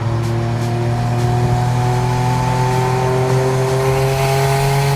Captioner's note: car engine roaring